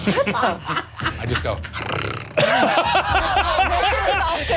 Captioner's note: purrs